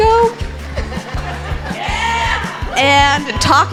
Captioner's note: laughing